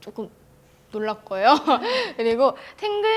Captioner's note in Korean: 웃음